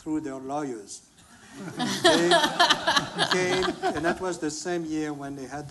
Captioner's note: laughter